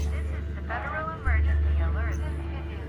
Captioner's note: automated Voice; voices chattering